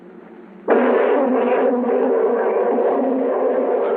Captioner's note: bees buzzing